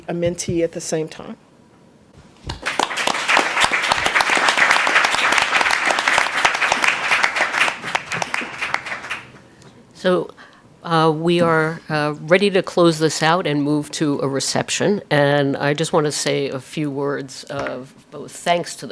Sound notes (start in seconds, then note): 2.5 applause